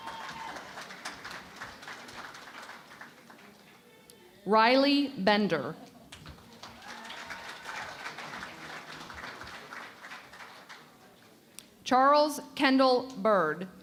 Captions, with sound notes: [ Cheering and Applause ] Riley Bender. [ Applause ] Charles Kendall Byrd.